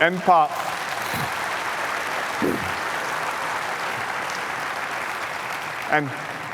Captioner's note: applause